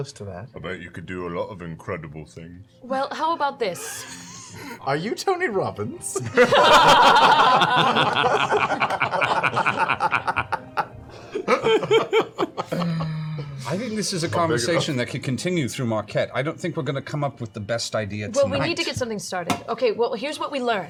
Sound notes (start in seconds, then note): 6.2 laughter